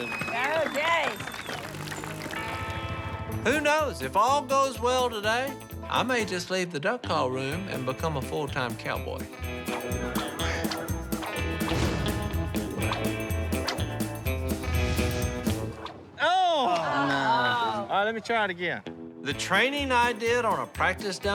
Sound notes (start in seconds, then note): 8.8 lasso whipping; 15.7 groaning